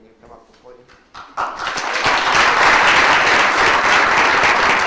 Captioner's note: audience applauds